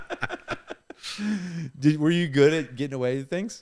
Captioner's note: laughing